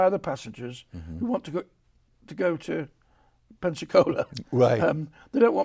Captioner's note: chuckles